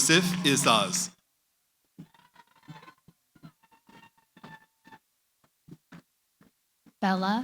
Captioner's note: cheering